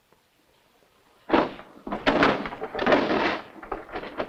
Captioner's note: drawers rattling